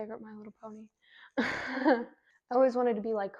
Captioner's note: laughs